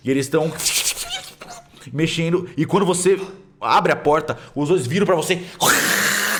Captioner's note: rat squeaks; loud rat squeak